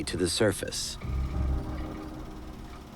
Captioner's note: film reel clicking